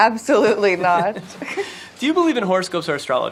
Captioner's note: laughing